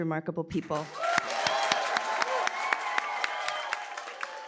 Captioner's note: cheering, applause